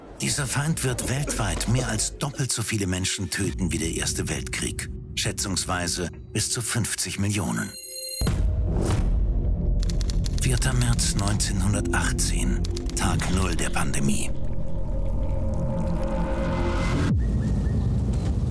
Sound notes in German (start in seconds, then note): 9.8 Schreibmaschine tippt; 14.9 Soundeffekt; 16.1 Vögel zwitschern